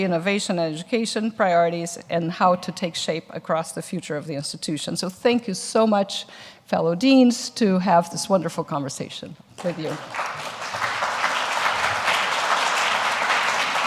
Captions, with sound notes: innovation, and education priorities, and how to take shape across the future of the institution. So thank you so much, fellow deans, to have this wonderful conversation with you. (audience applauds)